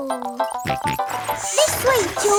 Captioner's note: george snorts